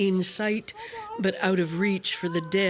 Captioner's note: crying